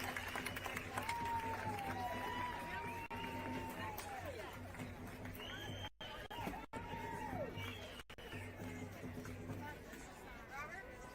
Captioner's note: cheering